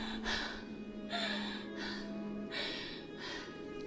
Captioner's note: Connie gasps